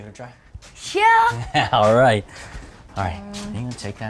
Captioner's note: chuckling